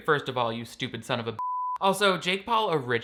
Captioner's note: beep